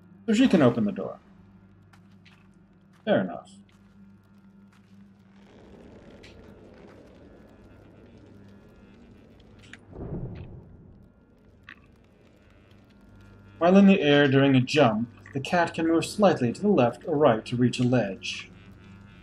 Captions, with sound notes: So she can open the door. Fair enough. [fire crackling] "While in the air during a jump, "the cat can move slightly to the left or right to reach a ledge."